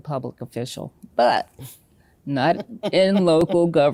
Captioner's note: laughing